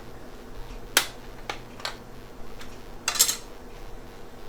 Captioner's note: lid breaks